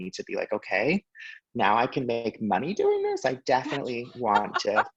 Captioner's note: laughing